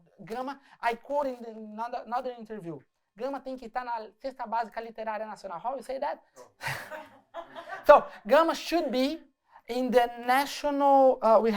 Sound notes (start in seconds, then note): 3.1 speaking portuguese; 6.4 laughter